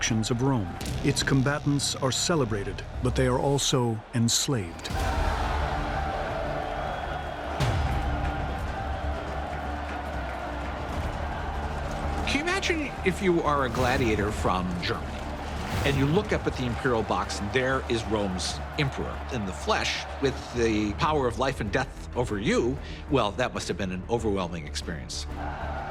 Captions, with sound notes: Its combatants are celebrated, but they are also enslaved. [crowd cheering] [suspenseful music] Can you imagine if you are a gladiator from Germany? And you look up at the imperial box. There is Rome's emperor, in the flesh, with the power of life and death over you. Well, that must have been an overwhelming experience.